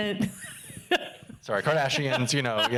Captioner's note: laughing